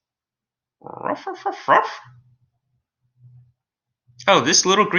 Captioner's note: Alien Space Doggy groaning